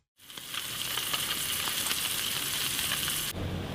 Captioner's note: sizzling